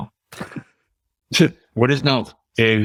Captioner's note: chuckles